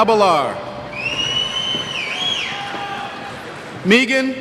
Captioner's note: cheers